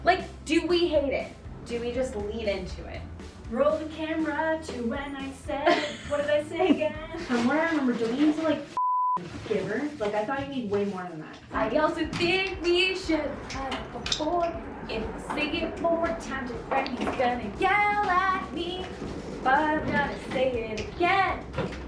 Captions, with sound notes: Like, do we hate it? Do we just lean into it? - (sing-song) Roll the camera to when I said, what did I say again? From what I remember, don't you need to like (beep) giver? Like, I thought you need way more than that. - (sing-song) I also think we should've cut it before. If I say it one more time to Graham, he's gonna yell at me. But I'm gonna say it again.